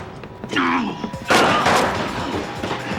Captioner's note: gun firing